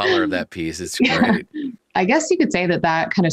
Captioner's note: chuckles